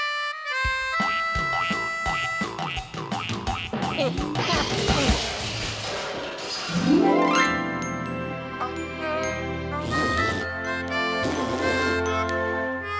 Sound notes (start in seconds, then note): 1.7 mouth harp and fanfare; 4.7 crashing; 11.1 spitting; 11.2 slow jazzy tune